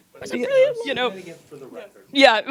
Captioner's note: gentle speaking and laughing; laughs